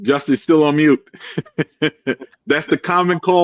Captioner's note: laughing